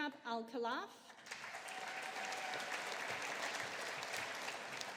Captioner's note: audience applauding